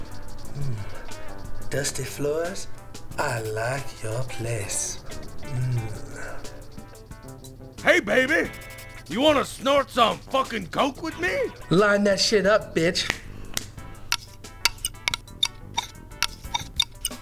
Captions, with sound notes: Umm. Dusty Floors... I like your place. Ummm. Hey baby... You want to snort some fucking coke with me? Line that shit up bitch. ( snap snap ) ( Scrape Scrape )